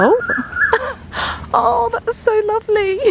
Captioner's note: bird calling